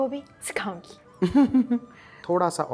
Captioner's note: chuckles